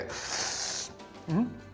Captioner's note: taking deep breath